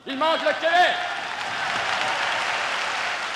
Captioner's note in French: applaudissements